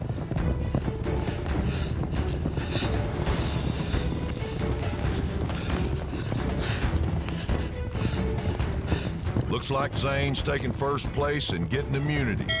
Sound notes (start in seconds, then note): 1.6 hoof beats